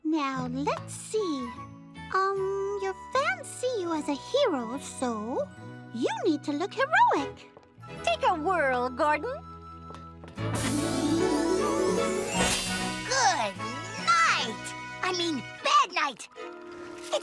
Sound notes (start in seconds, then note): none